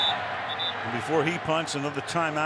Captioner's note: whistling